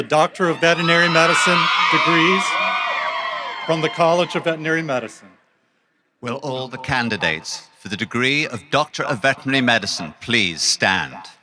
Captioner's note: applause